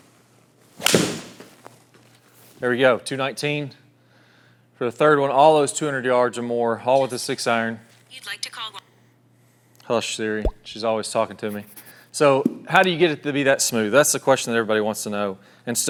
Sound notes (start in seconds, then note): 0.8 golf club swings